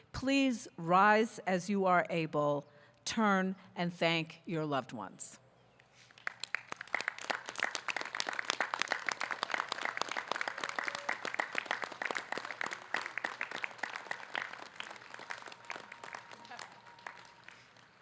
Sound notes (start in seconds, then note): 6.5 audience clapping